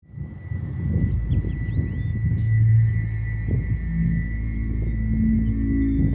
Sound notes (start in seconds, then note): 0.0 crickets chirping; 2.9 slow ambient music